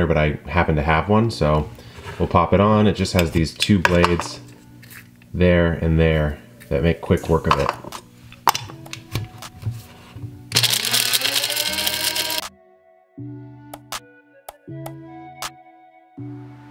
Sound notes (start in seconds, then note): 10.5 grinder whirring; 12.3 smooth upbeat music